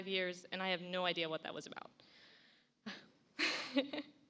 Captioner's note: laughs